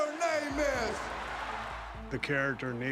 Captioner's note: crowd roaring